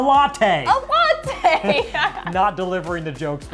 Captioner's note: laughs